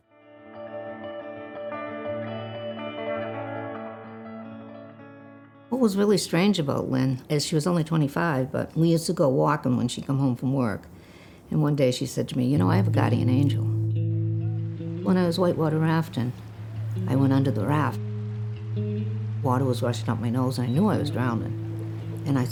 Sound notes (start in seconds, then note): 1.4 lively music; 14.0 gentle guitar music; 15.9 people faintly talking; 16.4 water flowing